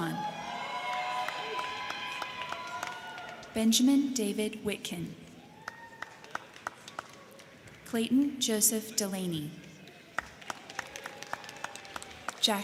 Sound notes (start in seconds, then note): 0.0 crowd cheering; 0.5 crowd clapping; 5.5 crowd clapping; 9.7 crowd clapping